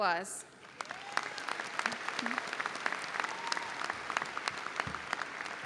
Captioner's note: audience cheers and applauds